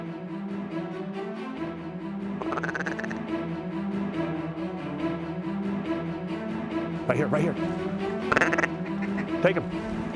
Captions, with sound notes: (DUCK CALLS) >RIGHT HERE, RIGHT HERE. TAKE 'EM.